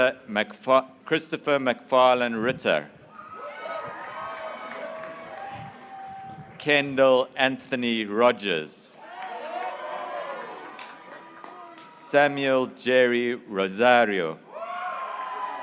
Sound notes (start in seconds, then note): 0.2 graduates cheering; 5.5 graduates cheering; 11.0 graduates cheering; 14.5 graduates cheering